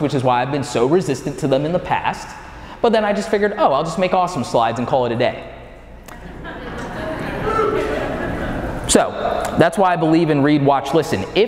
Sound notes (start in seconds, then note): 6.1 audience laughing